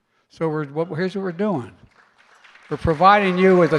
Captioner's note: applause